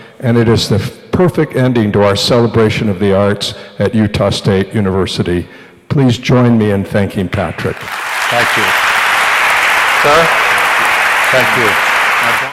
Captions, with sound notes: And it is the perfect ending to our celebration of the arts at Utah State University. Please join me in thanking Patrick. [AUDIENCE APPLAUDS] Thank you. [AUDIENCE APPLAUDS] Sir, thank you.